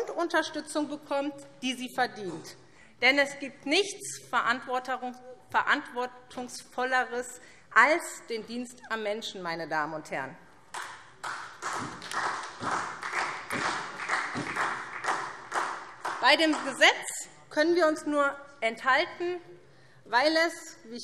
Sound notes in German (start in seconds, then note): 10.7 Beifall SPD